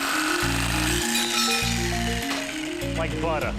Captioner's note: saw buzzing; metal clanks